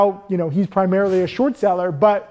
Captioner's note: air whooshing